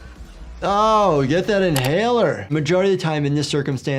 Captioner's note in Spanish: música alegre; chasquido del teclado